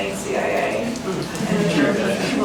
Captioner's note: laughter